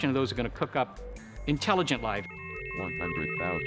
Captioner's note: computer warbling; computer Voice